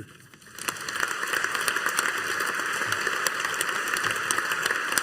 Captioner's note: audience applauding